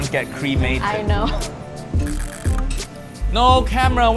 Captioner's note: dial clicking